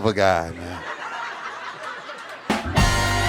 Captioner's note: audience laughing; upbeat drum music